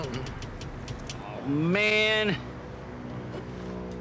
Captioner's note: clicking continues